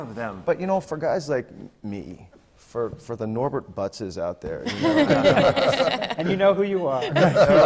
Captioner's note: laughter